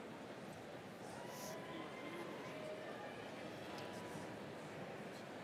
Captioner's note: crowd chattering